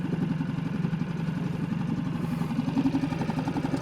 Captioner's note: boat whirring